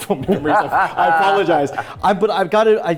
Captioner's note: laughing